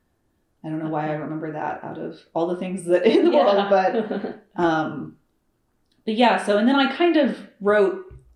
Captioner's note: laughter